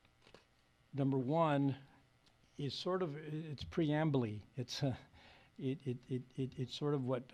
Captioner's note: chuckles